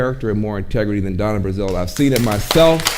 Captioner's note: audience applauding